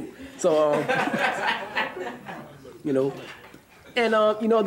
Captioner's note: audience laughing